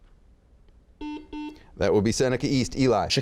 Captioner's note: buzzes